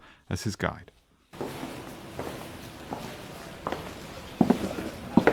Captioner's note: footsteps